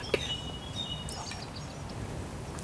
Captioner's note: whispering